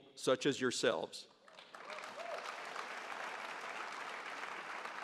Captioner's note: audience applauds